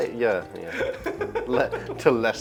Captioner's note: laughs